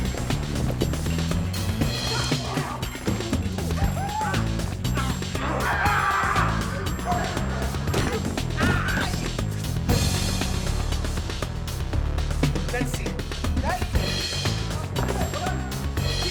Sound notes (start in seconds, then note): 5.4 screaming; 5.8 bumping sound; 8.5 screaming; 9.5 fast-paced music